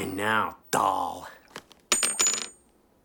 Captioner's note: ring clinks